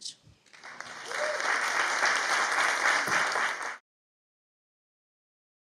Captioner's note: audience applauding and cheering